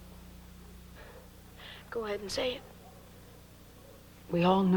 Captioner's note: breathes deep